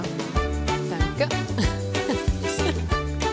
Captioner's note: laughs; cheerful, lively music